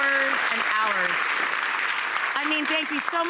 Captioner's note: audience applauding